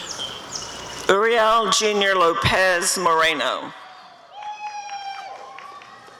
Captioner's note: applause and cheering